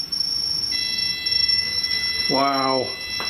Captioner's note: machine beeping